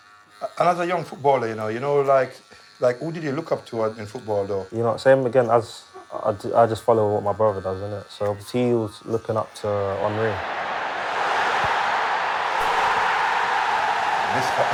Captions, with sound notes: And as a young footballer, you know, you know, like who did -you look up to in football though? -You know, same again, I just follow what my brother does innit? See, he was looking up to Henry. [CROWD ROARING]